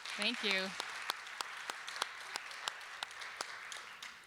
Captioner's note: applause